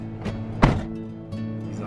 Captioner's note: car door bangs